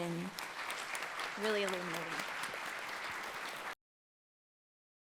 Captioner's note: audience applauds